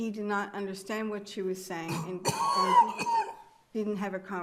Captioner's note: attendee coughing